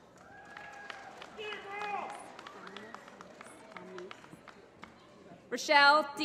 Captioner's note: applause